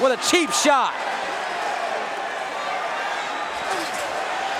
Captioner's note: audience cheering